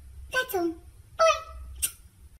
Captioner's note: smooch